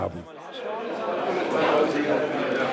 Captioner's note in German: Stimmengewirr